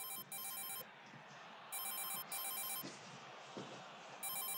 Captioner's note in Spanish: Suena el celular